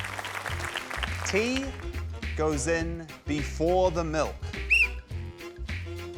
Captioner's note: applause; whistle blows